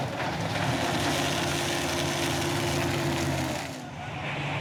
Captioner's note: engine roaring